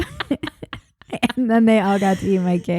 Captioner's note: both laughing